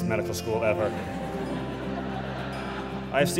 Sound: laughter

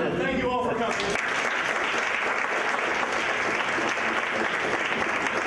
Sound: applause

